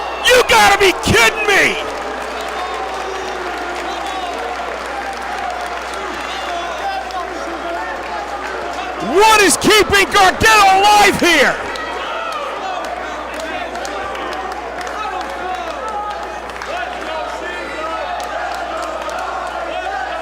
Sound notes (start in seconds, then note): 1.5 applause; 15.7 applause